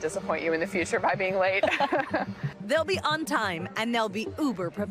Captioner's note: laughter